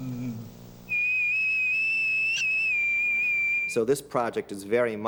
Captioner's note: whistles